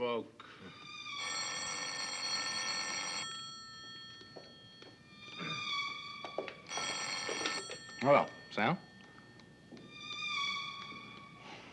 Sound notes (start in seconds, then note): 1.0 telephone ring; 9.7 tense music